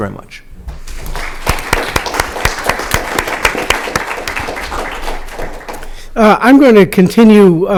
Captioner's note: applause